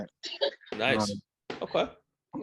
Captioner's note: laughing